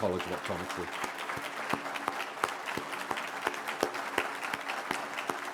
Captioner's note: applause